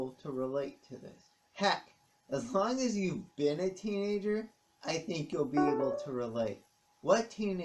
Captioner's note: ping of Kindle